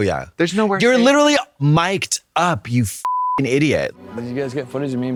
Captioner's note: beep